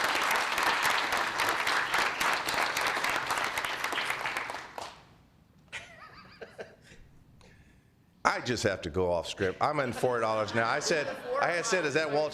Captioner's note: applause; laughter